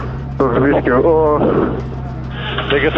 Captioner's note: uncomfortability sounds